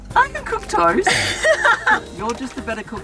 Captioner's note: laughing